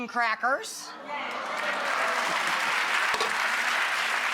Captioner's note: applause